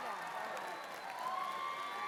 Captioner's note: cheers and applause